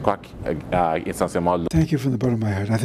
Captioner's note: speaking in French